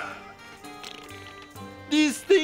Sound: groan; sputtering

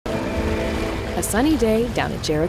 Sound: gentle music; water sloshing

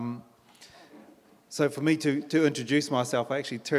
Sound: in English

